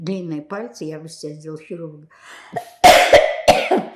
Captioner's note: coughing